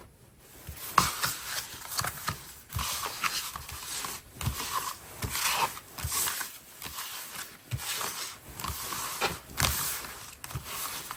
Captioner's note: drawing cards